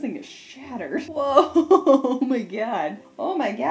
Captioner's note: laughing